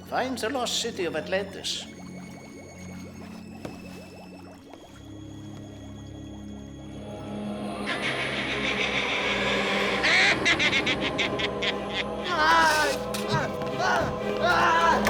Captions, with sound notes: Find the lost city of Atlantis. (evil cackling) - Ahhh!